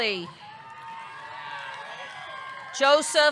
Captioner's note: audience cheering; audience clapping